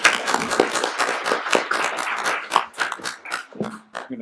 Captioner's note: applauding